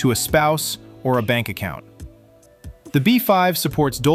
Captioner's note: thoughtful